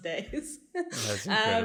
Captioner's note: laugh